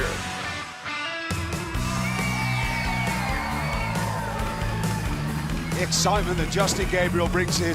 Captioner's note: crowd cheering